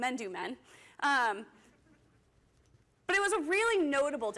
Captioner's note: laughter